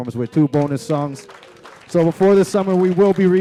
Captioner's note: applause